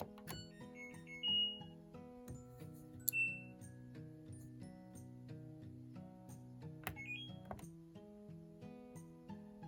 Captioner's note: beeping sounds of the washing machine